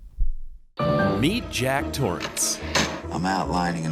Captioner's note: male Voice